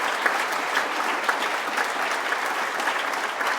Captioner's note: applause